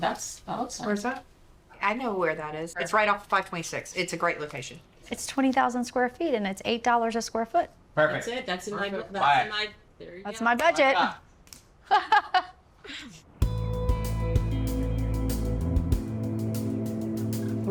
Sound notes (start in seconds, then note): 11.4 laughs; 13.4 steady music